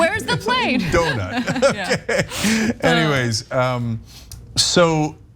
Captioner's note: laugh